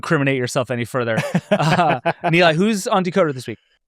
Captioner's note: laughs